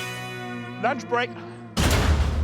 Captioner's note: echoing slam